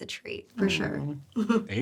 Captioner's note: chuckles